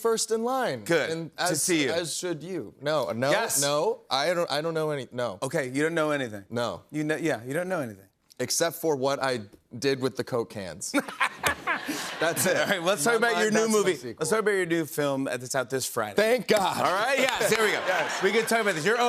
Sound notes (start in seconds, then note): 10.9 laughter